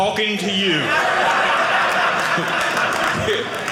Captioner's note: audience laughing